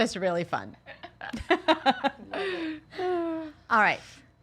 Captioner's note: all laughing